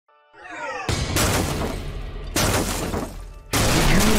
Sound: glass crashing

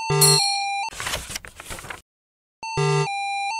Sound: beep; sound of page turning; low quality 8-bit music

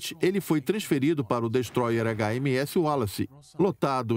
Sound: gun firing

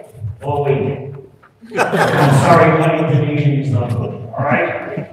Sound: laughter

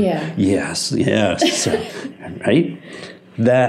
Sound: laughing

